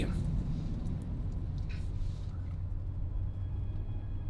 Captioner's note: motor humming